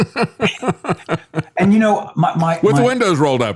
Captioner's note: laughing